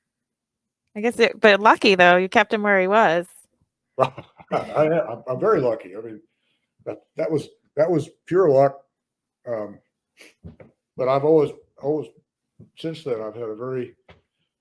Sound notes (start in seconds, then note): 4.0 laughs